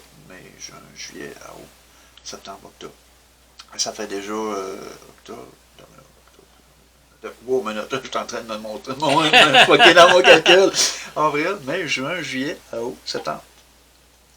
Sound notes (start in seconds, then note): 9.0 laughs